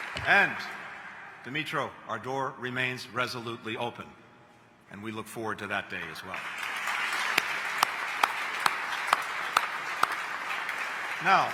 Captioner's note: applause